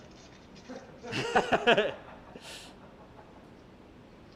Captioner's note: laughter